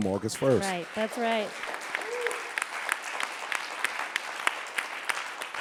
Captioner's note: audience applauding